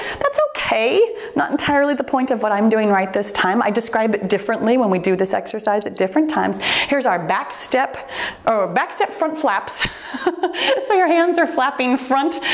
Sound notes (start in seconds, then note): 5.5 timer beeps; 9.9 chuckles